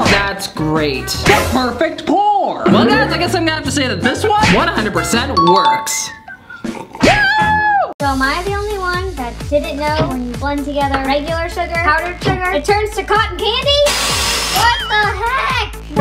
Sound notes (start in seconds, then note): 7.1 shouts